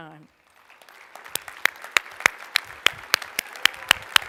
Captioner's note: applause